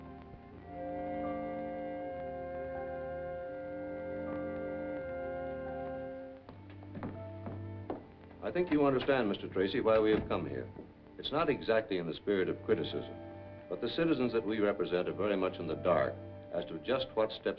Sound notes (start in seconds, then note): 0.2 slow, pensive music; 6.4 footsteps